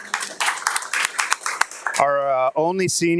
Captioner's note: audience applauding